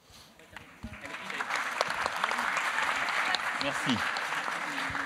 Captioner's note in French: Applaudissements